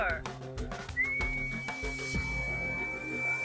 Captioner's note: whistling